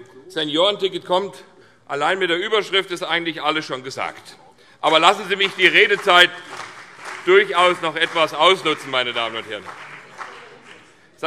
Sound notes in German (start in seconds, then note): 4.8 Vereinzelter Beifall CDU und BÜNDNIS 90/DIE GRÜNEN